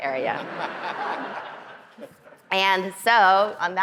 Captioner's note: audience laughing